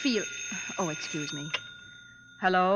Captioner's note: phone ringing